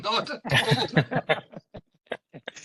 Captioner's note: laughing